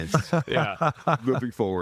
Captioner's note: laughing